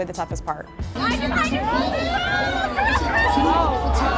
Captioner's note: yelling